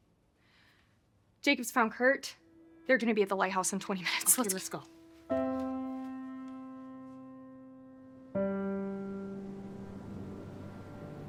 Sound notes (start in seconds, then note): 5.8 soft music; 8.3 wind whistling